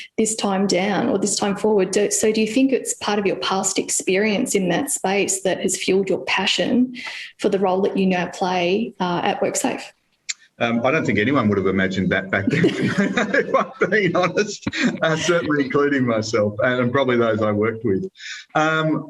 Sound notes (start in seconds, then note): 12.4 laughs